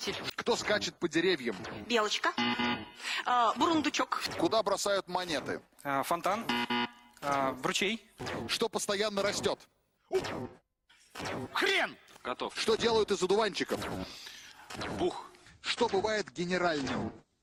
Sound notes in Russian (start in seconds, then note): 2.3 пи-пи; 6.4 пи-пи